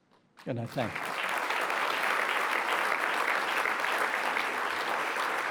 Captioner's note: applause